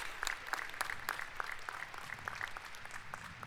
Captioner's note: applause